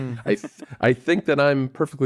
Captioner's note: laughs